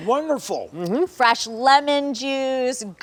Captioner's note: male guest makes an affirmative sound